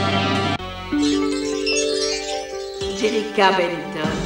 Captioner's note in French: Bruit magique